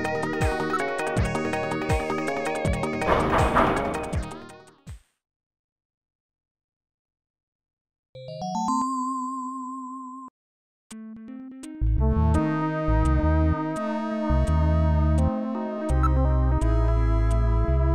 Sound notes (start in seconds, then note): 3.1 knocking; 8.2 jingle